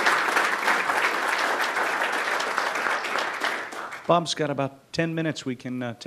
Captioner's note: applause